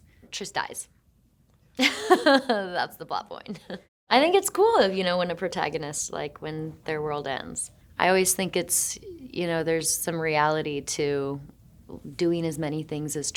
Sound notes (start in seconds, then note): 1.8 Shailene chuckling; 1.8 Shailene laughing